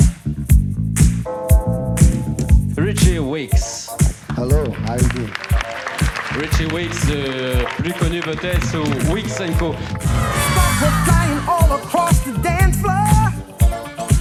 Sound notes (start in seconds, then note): 4.2 applause; 8.3 speaking French